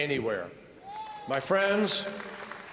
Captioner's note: applause